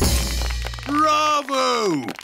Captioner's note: applauding